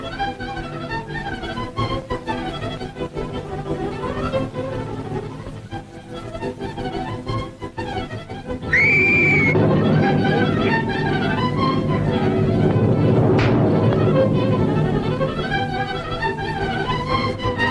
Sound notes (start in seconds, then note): 0.1 intense suspenseful orchestral music continues; 8.6 Chloe screaming; 13.4 fist slams